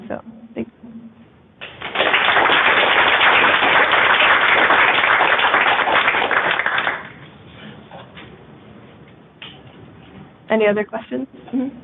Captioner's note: applause